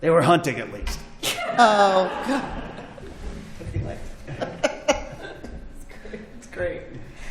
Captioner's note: laughter